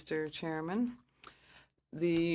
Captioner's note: speaking French